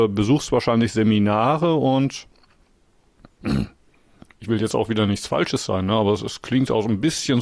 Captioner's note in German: räuspern